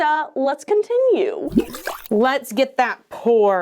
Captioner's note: liquid sloshes